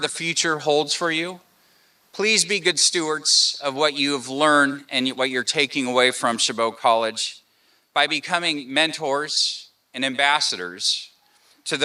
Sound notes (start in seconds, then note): none